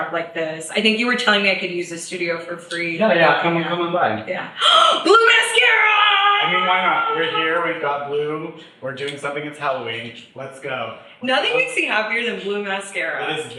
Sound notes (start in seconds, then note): 5.3 screams